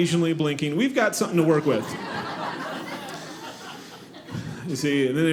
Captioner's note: audience laughing